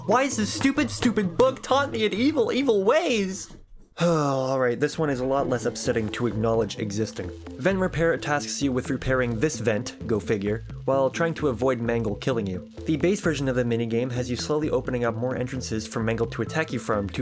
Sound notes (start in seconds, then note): 3.9 sigh